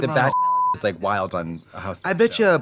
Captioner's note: beep